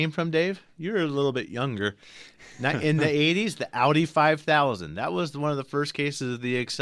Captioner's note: laughs